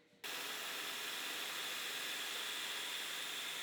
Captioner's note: machine whirring